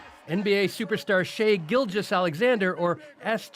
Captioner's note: chants